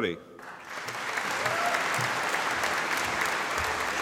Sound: audience applauding

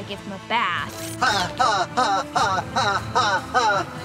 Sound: laughing

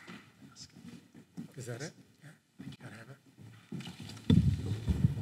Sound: whispering; mic noise

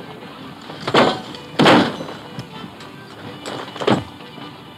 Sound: punch thuds

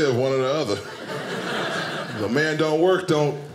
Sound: audience laughing

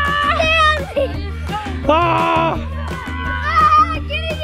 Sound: screams

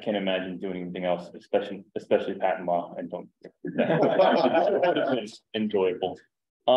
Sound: laughter

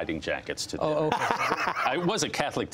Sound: laughter

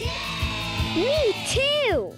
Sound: crowd cheers

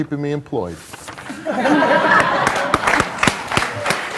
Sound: audience laughs

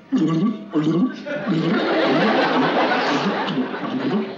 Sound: bubbles

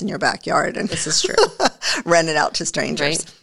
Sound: laughs

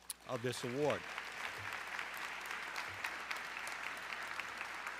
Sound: audience clapping

